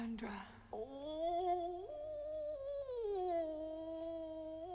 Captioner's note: Chrysula moaning